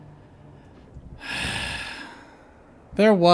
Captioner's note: sigh